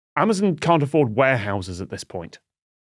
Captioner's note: none